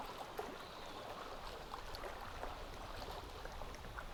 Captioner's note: none